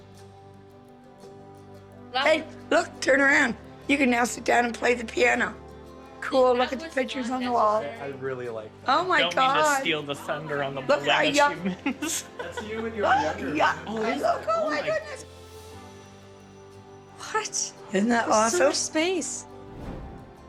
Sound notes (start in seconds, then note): 10.9 overlapping chatter & laughter